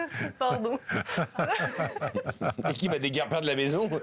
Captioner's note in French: Rires